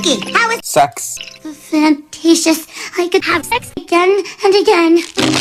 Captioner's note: in Horny Voice